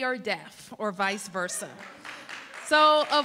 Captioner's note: applause